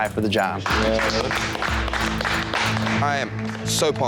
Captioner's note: applause